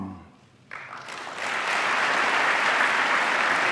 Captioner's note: applause